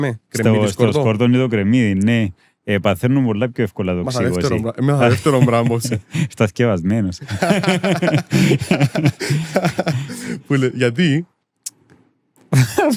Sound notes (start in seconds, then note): 7.2 laughs